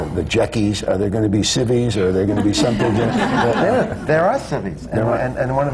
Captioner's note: laughter